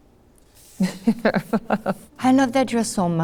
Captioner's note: laughing